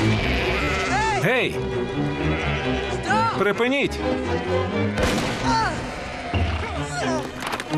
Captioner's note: gunshot, Mose grunting